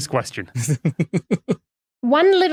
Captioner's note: snickers